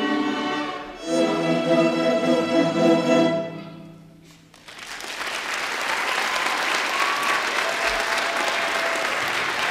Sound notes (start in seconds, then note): 4.5 applause